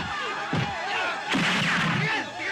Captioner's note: gun fired